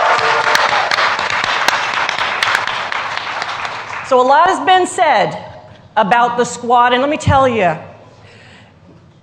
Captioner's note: cheers and applause